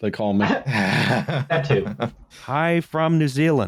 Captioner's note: laughter